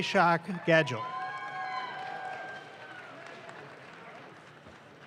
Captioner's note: audience claps